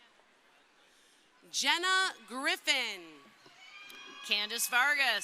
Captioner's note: crowd cheering